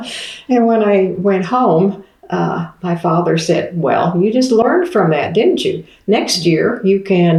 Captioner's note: laughs